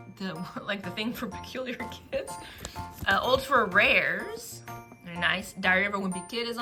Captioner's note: laughs